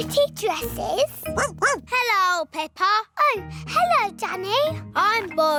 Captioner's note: barks